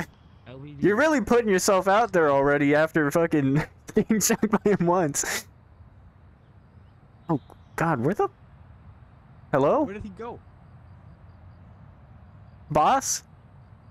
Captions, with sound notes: You're really putting yourself out there already After fuckin'.. getting shocked by him once *laughing* Oh, god- Where the-? - Where did he go? Hello? Boss?